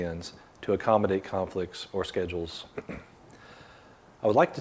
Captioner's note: clears throat